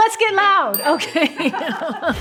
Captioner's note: bell dings